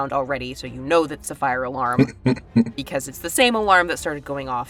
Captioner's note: chuckles